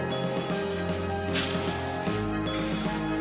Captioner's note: sniffles